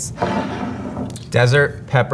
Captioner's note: jar sliding